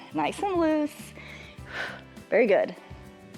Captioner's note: exhales